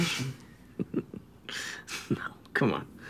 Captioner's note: chuckles